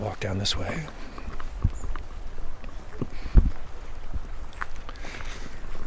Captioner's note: footsteps